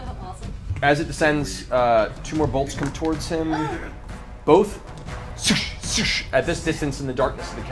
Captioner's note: whoosh, whoosh